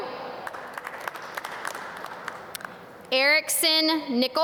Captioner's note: audience clap